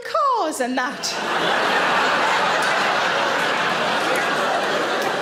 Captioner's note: audience laughing